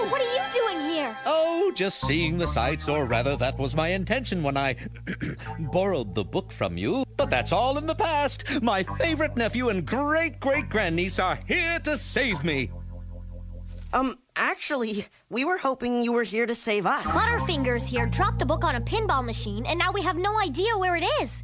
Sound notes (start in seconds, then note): 4.9 clears throat